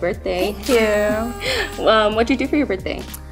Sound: party horn honks

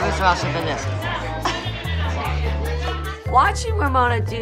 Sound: laughs

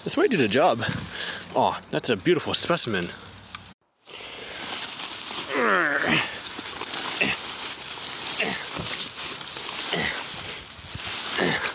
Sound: grunts

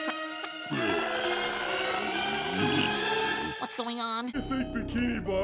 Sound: moaning

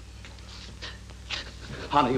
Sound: gasps

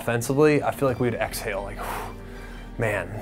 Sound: exhales

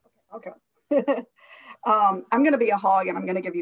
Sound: chuckles

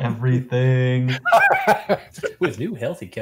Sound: laughs

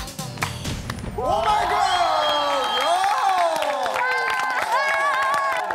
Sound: boom

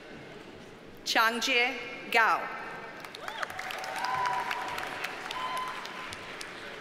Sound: audience cheers and applauds

